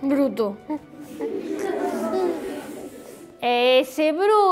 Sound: kids laugh

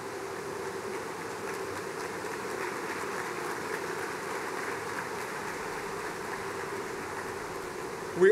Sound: applause

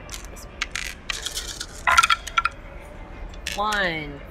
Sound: dice rattling

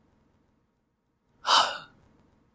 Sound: sigh

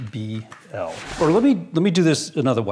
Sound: sliding

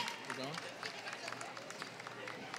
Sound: applause

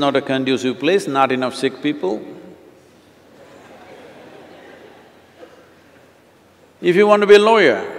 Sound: laughter

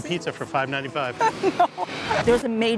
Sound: laughs

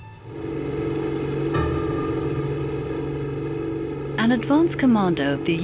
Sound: boat motor whirring

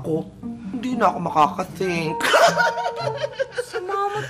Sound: chuckles

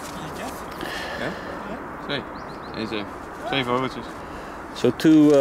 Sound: group members speaking in Dutch

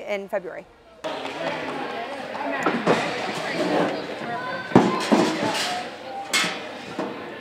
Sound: chair being moved

